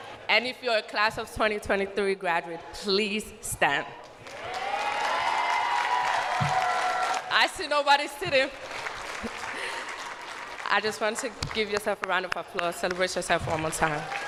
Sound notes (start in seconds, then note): 7.7 cheers and applause; 12.9 chuckles